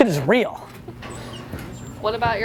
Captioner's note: laughter